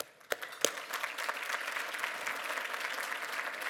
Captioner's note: applause